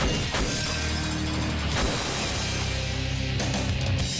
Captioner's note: squashing sound